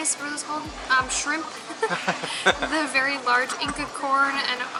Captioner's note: giggles